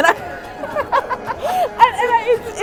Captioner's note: laughs